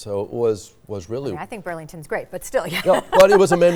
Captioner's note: laughing